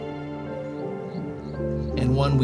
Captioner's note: lion growling